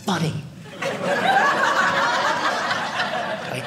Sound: audience laughing

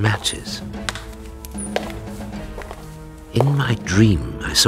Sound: echoing footsteps

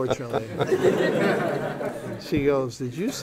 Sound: laughter

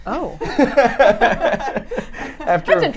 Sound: laughs

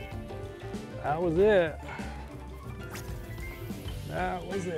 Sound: reel whizzes

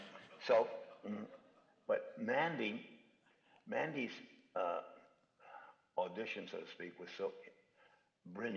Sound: speaking in normal voice

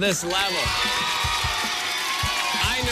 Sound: cheers and applause

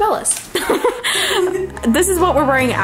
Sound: both laughing

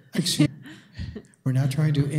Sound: woman chuckles

